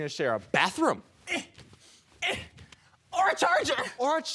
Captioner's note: grunting